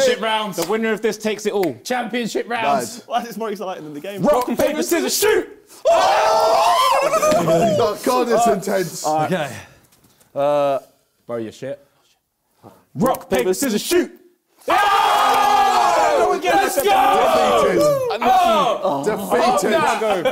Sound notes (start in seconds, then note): 5.8 both cheering